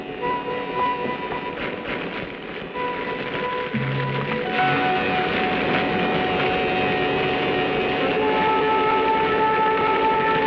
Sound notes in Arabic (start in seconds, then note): 0.0 طقطقة النار; 2.7 الموسيقى المشؤومة